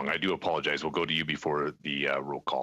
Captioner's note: speaking French